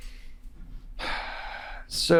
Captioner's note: sighing